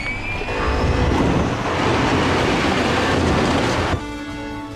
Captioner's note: ship whirs; ship rumbles